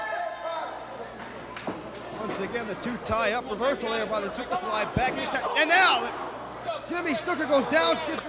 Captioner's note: crowd chatter